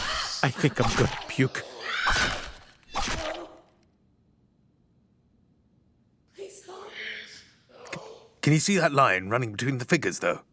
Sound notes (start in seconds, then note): 0.0 ghostly screams; 1.4 ghostly screams continue; 2.9 ghostly voices